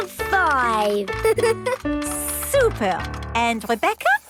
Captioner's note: giggles